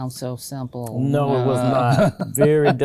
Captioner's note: laughing